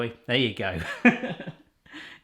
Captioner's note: laughs